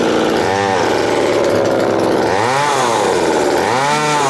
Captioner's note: engine revving